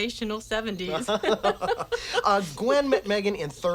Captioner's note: both laughing